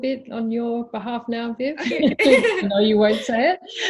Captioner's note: laughs